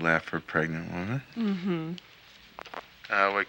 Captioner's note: phone clicks